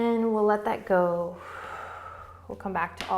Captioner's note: exhaling